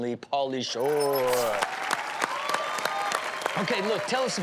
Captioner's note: cheering